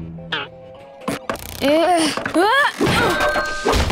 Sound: groaning

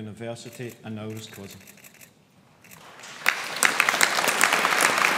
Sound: audience applauds

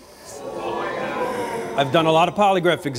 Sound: audience gasps

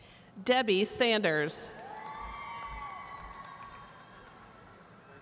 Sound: audience cheering

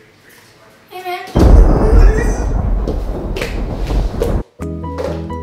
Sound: thunder Rumbles

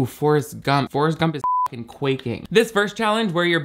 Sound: beep

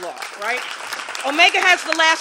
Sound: applause

